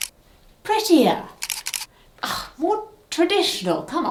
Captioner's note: camera clicking